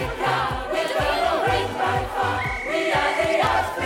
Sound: Sema blows whistle

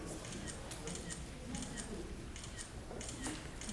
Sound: camera clicking

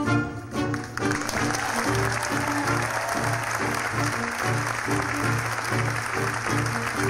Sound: lively music; audience applauds; audience cheers

